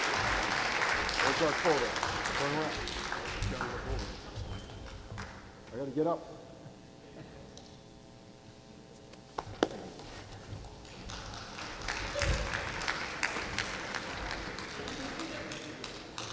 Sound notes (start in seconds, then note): 10.8 clapping